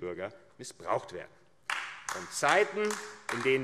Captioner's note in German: Beifall AfD